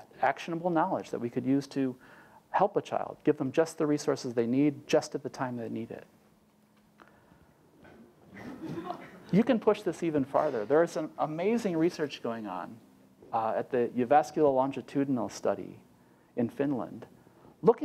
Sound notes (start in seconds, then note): 8.3 laugh